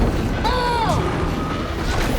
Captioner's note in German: schreit